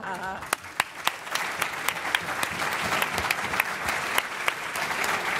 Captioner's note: applause